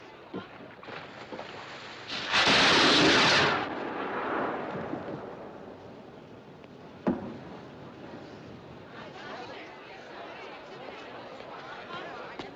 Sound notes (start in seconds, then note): none